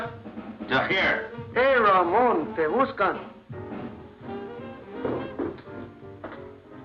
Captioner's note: speaks Spanish